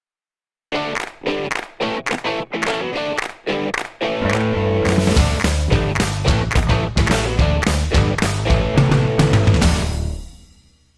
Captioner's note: claps